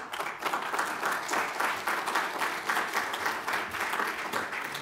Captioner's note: audience clapping